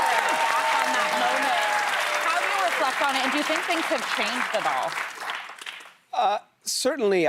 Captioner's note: cheers and applause